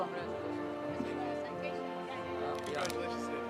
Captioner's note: faculty chattering